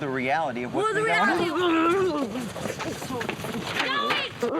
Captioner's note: grunting